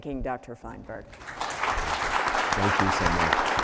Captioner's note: audience applauding